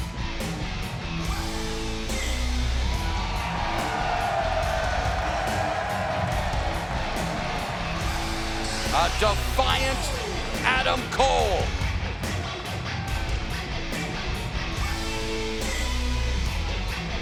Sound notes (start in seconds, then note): 3.1 fans cheering; 11.8 energetic rock music